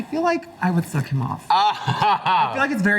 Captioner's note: laughs